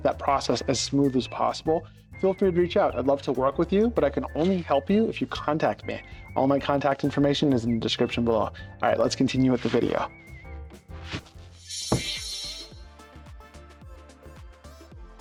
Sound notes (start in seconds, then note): 11.9 door slams